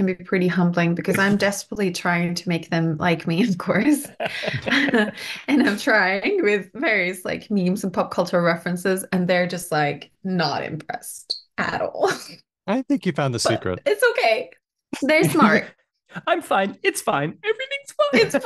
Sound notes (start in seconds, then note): 3.8 laughs